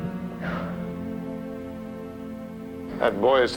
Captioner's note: Danny exhales sharply